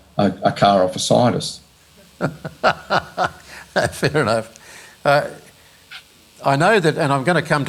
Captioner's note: laughs